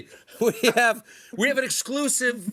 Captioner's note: laughter